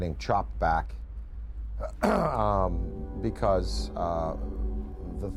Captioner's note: clears throat